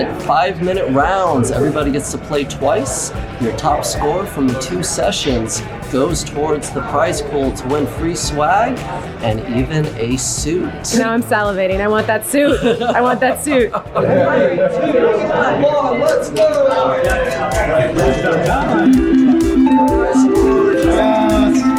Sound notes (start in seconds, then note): 15.3 people chattering; 19.5 ding